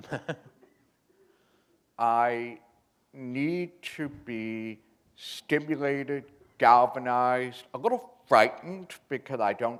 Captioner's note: chuckle